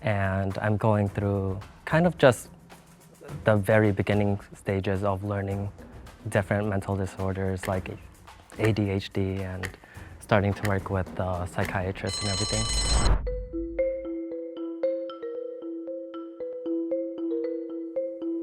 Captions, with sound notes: And I'm going through kind of just the very beginning stages of learning different mental disorders like ADHD and starting to work with the psychiatrist and everything. (bell rings) (intense music)